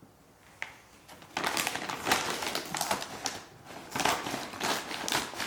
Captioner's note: plastic crinkling